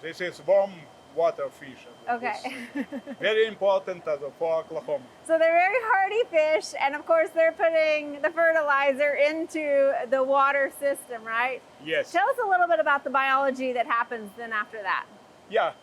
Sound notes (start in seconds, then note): 2.4 laughing